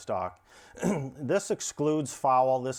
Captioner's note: clears throat